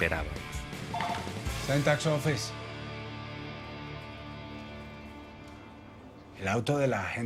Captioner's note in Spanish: Suena un teléfono